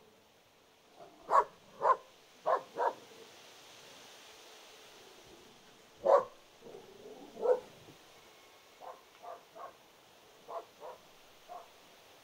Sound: barking

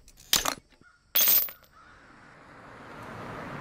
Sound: clinking

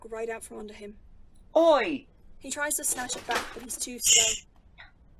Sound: book slam from the table next to them

